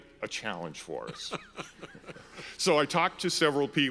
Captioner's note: laughs